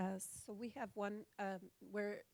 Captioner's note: voiceover